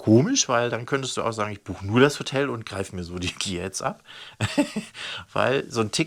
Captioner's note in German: lacht